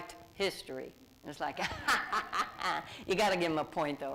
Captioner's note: laughs